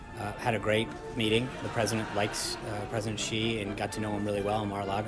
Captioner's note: laugh track